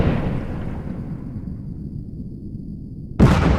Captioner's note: torpedoes hissing; boom